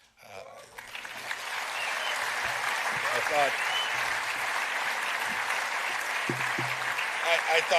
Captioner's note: applause